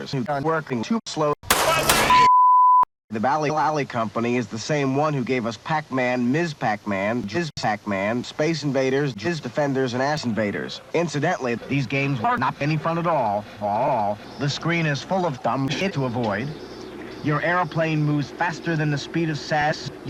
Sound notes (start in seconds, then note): 1.4 gunshots